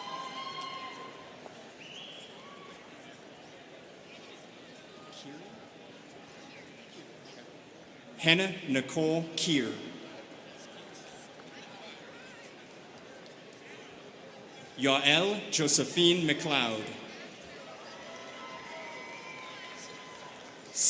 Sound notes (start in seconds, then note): 0.0 students cheering; 4.9 students chattering; 19.3 students cheering